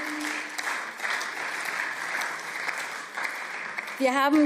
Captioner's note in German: Beifall